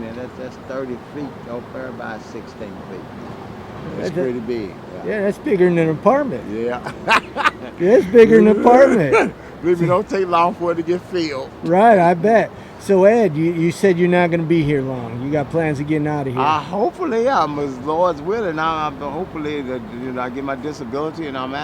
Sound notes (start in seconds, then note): 6.8 he laughs heartily